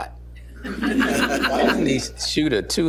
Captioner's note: laughter